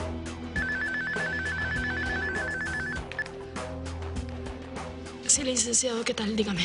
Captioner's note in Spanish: Suena el celular